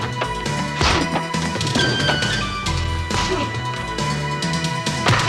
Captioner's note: punches thudding